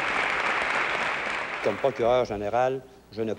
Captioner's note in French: applaudissements